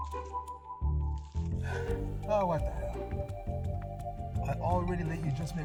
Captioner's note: sigh